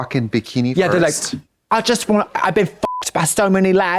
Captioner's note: beep